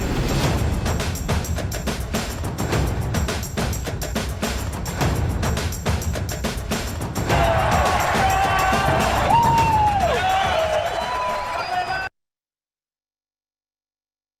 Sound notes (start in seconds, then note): 7.2 cheering